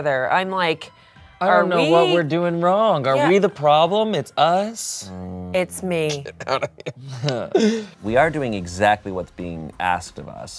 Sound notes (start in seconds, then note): 6.1 laughs